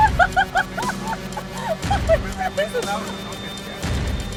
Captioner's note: car engine revving; laughing; car engine revving drowns audio